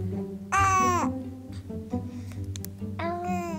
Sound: baby cooing; baby cooing

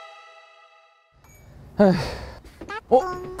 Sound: sighing

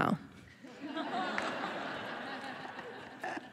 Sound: laughs

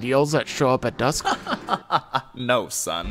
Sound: laughing

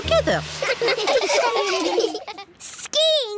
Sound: laughing

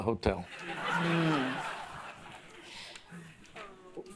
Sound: audience laughs

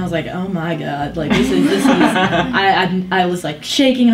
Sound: laughs

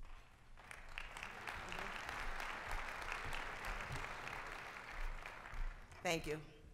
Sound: applause

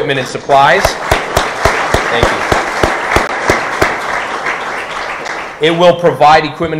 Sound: audience applauding

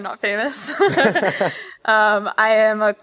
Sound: laughter

